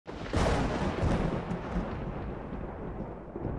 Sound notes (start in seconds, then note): 0.1 lightning cracking